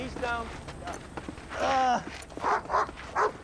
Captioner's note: groans